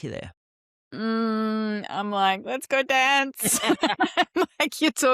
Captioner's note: laughs